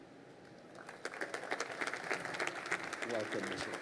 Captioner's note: crowd applauding